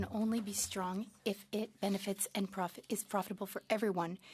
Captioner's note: speaking French